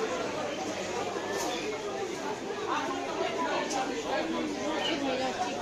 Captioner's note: the noise of the bazaar